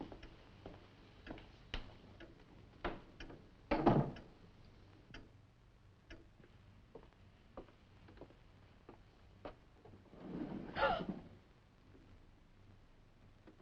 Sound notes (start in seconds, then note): 3.9 door thudding; 10.7 Nan gasping